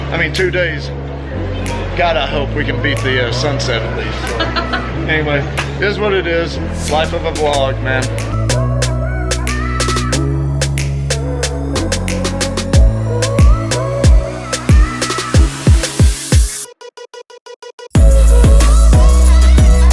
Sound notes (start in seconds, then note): 4.1 laughing; 8.3 pop music playing